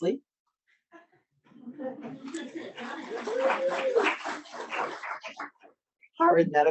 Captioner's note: audience applauding; audience cheering